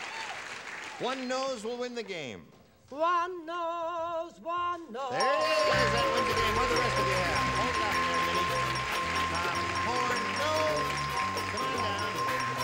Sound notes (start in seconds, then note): 4.8 ding; 5.3 applause